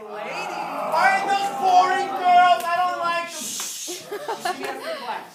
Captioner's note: shushing